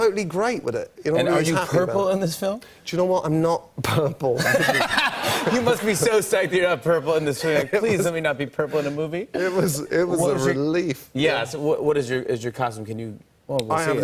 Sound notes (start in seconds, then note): 4.3 laughter